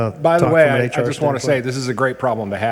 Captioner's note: overlapping chatter